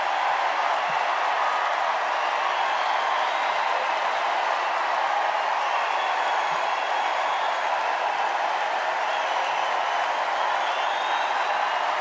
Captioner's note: cheers and applause